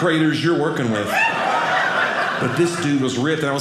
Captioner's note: audience laughing